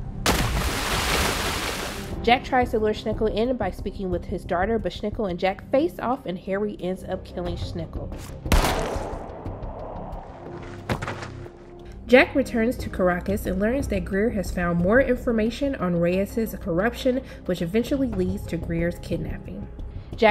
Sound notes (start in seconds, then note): 0.0 gun shooting; 0.2 water splashing; 8.5 gun shooting